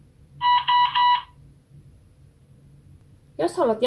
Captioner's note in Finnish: Bee-Bot piippaa